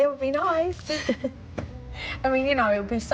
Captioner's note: chuckles